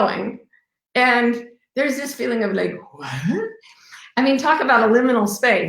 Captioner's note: murmurs